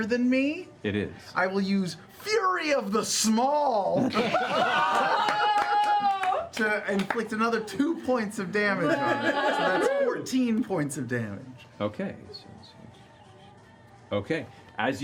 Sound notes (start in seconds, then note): 4.2 cheering